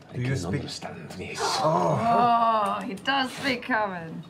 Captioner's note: gasps